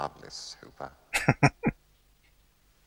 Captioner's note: chuckling